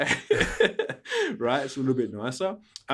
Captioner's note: laughing